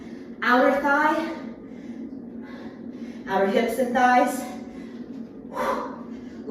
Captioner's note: sharply exhales